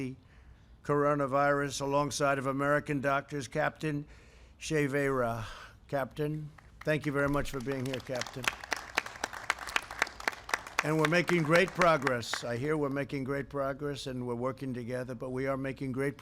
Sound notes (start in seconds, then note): 6.5 applause